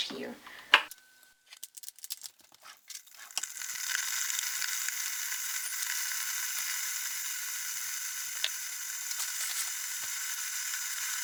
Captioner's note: switching the kettle on; kettle sounds